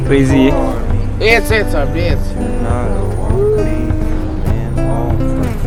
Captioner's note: speaking Albanian